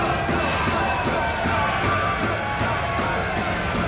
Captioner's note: people shouting